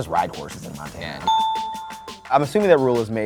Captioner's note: dinging